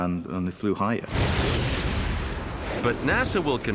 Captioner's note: rocket blasting